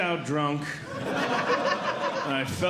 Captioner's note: audience Laughing